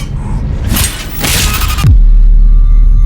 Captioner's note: distorted screaming